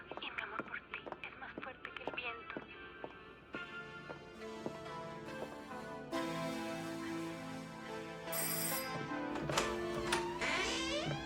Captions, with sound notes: And my love is stronger than the wind. [door bell ringing]